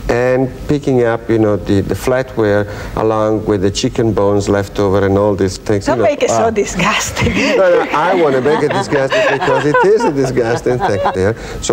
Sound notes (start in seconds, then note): 7.0 laughs; 7.1 audience laughs